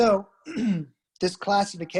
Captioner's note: clears throat